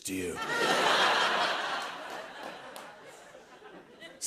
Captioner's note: laughter